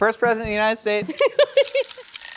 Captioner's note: timer Ticking; timer Ringing